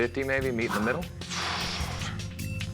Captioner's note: huffs